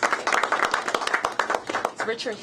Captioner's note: applause